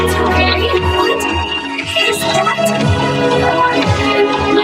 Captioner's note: Kaufo growls